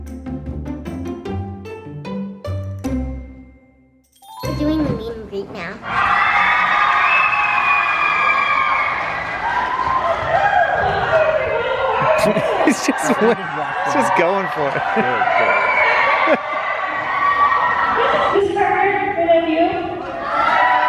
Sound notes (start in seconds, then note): 0.0 upbeat music; 6.0 cheering; 16.5 laughs; 20.6 cheering